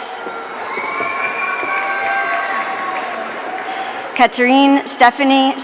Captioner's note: audience cheering